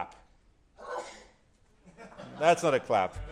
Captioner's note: sneezes